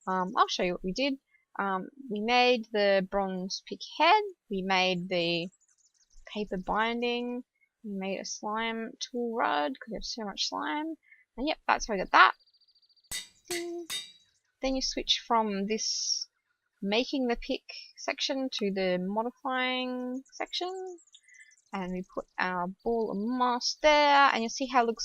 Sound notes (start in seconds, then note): 13.1 metallic banging